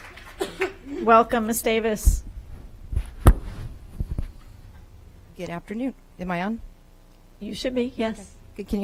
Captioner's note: applause